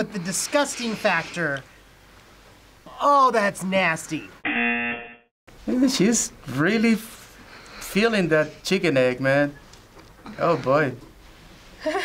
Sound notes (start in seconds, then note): 4.4 buzzer rings; 11.8 laughs